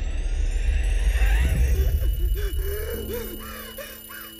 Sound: Lily gasping

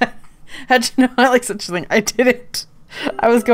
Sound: laughing

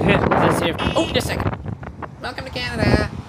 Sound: car horn honking

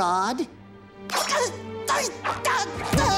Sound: crying; groaning

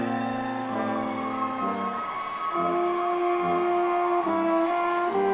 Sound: audience cheers

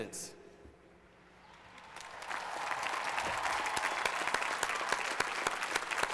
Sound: applause

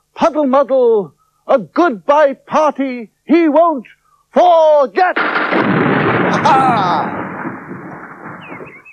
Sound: sound Of Thunder

